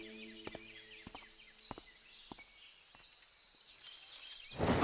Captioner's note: The sound of Chu Yuan's footsteps fade